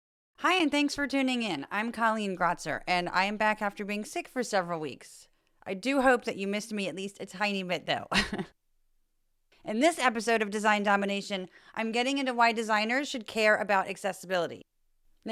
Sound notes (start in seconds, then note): 8.1 laugh